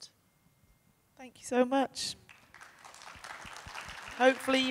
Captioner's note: audience applauding